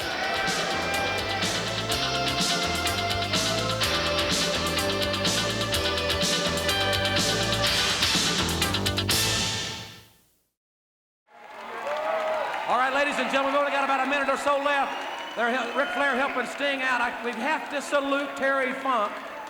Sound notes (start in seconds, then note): 11.4 crowd cheering